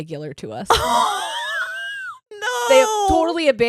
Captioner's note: laughing